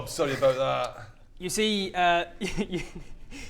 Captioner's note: giggles